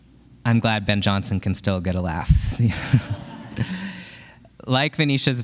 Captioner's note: chuckles